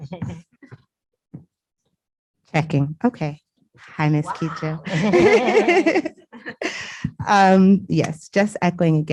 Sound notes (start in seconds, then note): 4.3 laughter